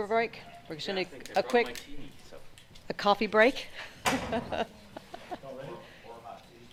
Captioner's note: laughs